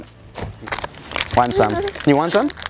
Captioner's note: package crumpling